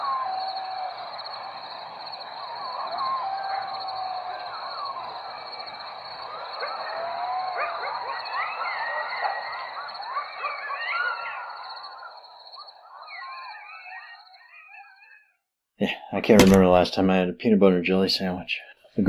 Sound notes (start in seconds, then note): 0.0 coyotes barking